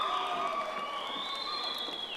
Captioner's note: audience applauding